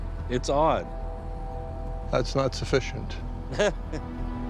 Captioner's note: laughs